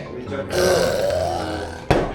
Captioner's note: screaming